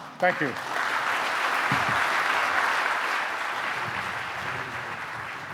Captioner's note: audience applauding